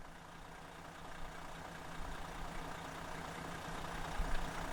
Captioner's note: Coach engine purring